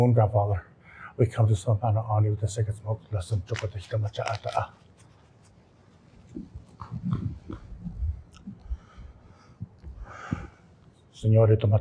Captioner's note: non-english speech